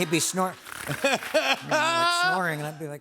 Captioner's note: snores